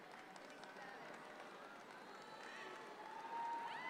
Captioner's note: audience clapping